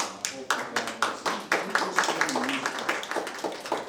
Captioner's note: applause